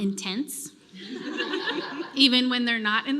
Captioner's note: laughter